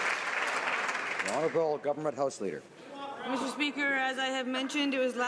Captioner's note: some Applause